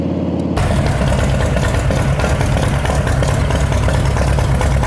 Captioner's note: engine roaring